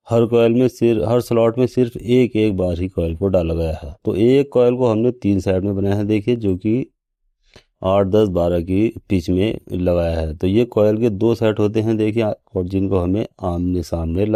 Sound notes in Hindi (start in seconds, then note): 7.4 नाक से की जाने वाली आवाज़